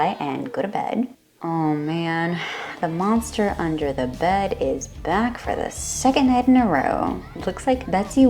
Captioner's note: exhale